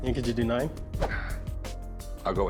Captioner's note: rick sighs